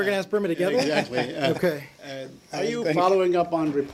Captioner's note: laughter